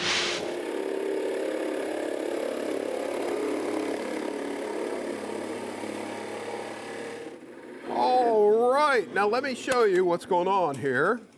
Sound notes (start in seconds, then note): 0.0 air whooshes; 0.0 drilling